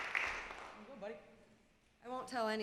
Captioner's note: clapping